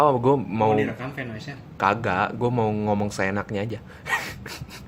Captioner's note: laughs